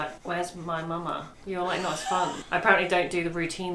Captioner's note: laughs